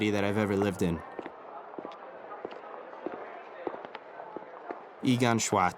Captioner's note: steps clattering